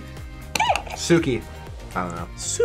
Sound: buzzer squeaks

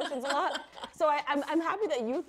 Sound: laughing

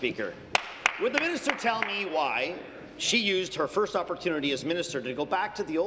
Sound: applause

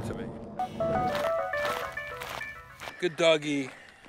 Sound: upbeat music; gravel crunching under foot

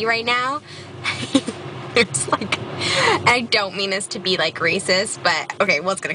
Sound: laugh

